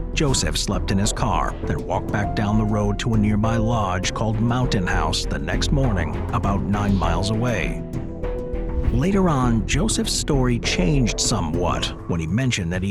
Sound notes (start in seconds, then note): 7.7 gentle suspenseful music continues; 8.4 transition whooshes